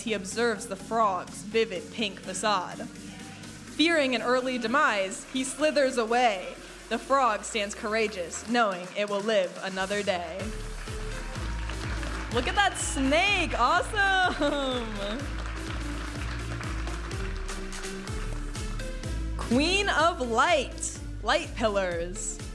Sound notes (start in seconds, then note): 11.3 audience applauding and cheering; 15.3 upbeat music